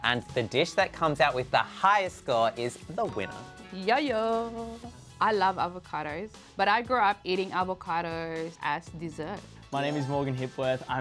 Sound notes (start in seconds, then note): 3.1 chime